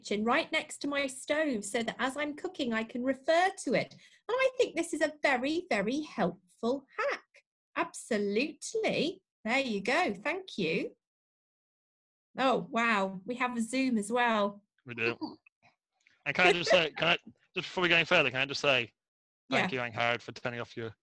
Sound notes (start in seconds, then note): 14.9 laughs